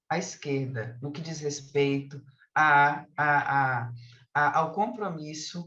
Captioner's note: continues speaking in Portuguese